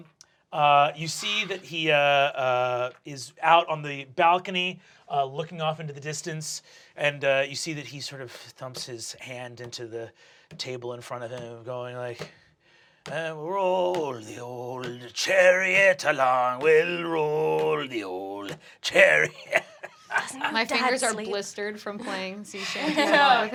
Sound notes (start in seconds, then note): 18.8 laughs